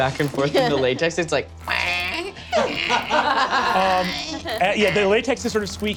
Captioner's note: mimics squeaking